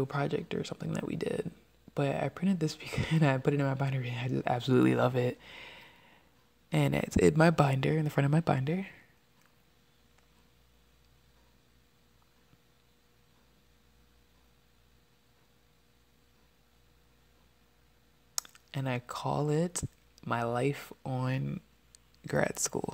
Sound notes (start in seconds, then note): 2.6 laughs